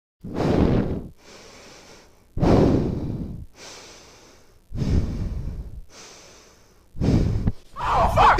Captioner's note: breathing heavily